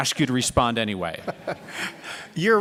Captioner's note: laughter